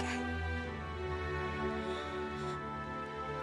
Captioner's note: breathes shallowly